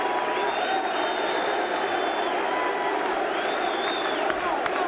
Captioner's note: crowd whistling; crowd exclaiming continues; crowd clapping